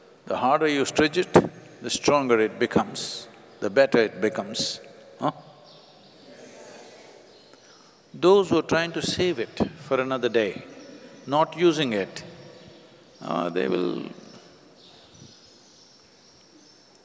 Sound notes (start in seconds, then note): none